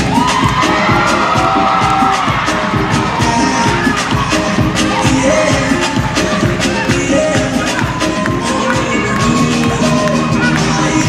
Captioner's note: cheering